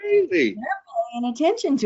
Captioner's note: audio distortion